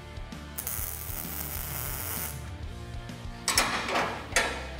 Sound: machine hissing; metal clinking

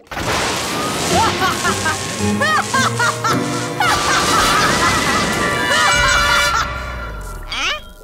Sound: laughing maniacally

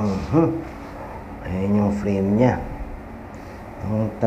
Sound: confused

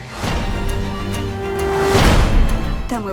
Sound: horn blares

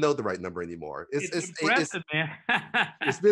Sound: laughs

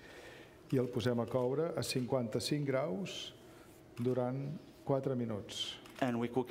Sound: speaking catalan

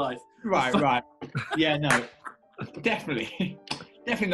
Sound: laughing

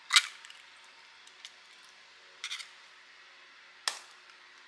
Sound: nervously cracking an egg

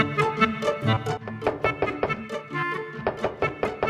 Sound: knocking

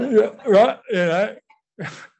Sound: laughter

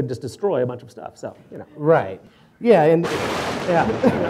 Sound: sound effect

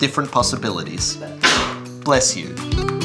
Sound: sneeze

